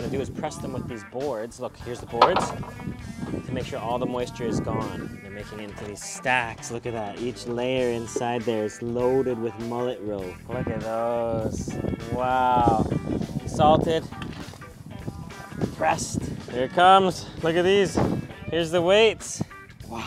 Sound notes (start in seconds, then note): 2.2 board thuds